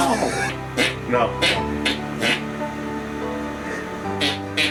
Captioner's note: imitating farting